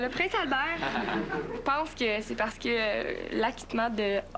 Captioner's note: Rires